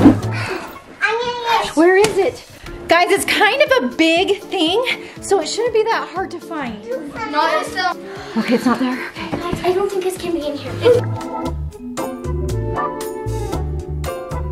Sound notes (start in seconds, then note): 0.2 sighs; 7.3 kids chatting; 11.8 upbeat music